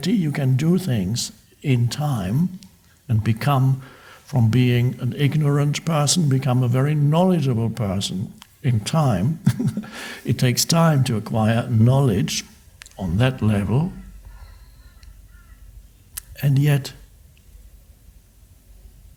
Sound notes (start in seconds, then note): 9.2 laughs